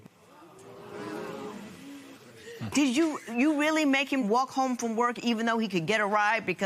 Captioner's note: spectators gasp